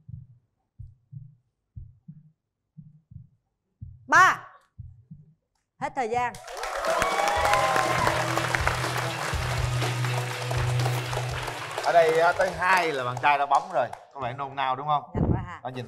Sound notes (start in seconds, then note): 6.3 clap